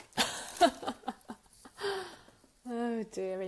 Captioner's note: laughing